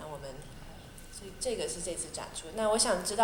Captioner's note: Mandarin